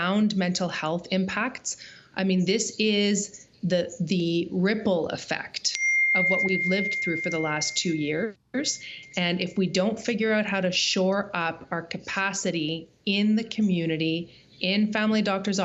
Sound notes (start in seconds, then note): none